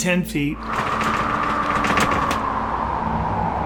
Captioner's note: wind blows